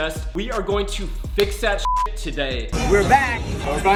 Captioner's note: beep